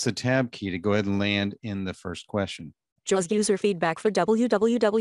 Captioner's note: computer Voice